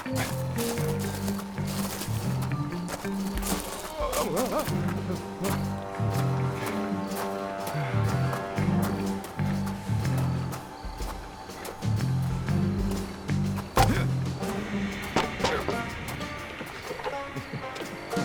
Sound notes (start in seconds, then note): 0.1 footsteps crunch; 3.8 Homer yells; 6.5 Homer pants; 13.9 Homer grunts